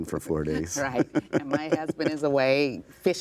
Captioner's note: laughing